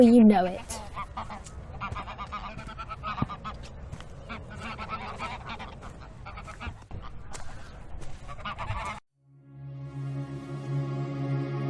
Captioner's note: footsteps. Transition Music